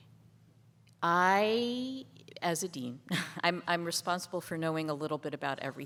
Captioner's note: laughs